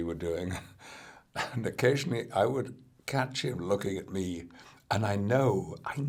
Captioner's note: laughs